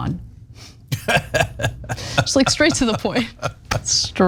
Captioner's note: laugh